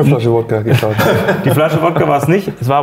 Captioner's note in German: Lachen